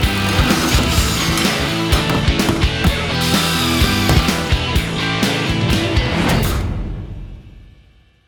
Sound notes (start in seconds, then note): 3.0 drill turning rapidly